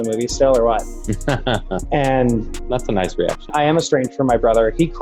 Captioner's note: laughs